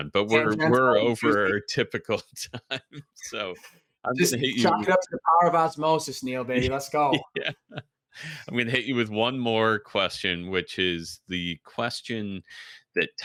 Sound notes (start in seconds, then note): 4.2 giggles; 6.6 laughs